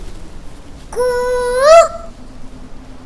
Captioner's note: Mimicking Cuckoo's voice